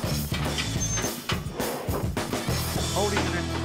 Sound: doors squeak shut

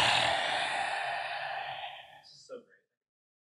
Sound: forced exhaling

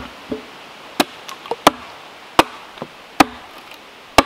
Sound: pounding

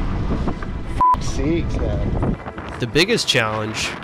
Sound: beep

